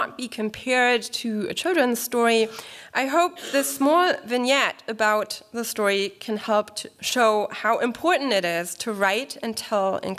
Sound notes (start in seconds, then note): none